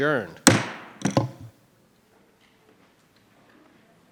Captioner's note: gavel bangs